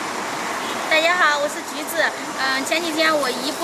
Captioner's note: Mandarin